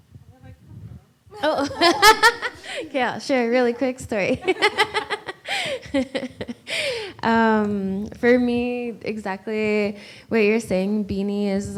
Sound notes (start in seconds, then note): 1.4 laughs; 4.4 laughs